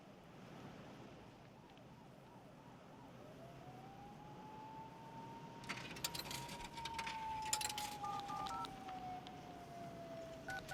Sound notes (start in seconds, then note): 4.9 sirens; 8.0 phone dialing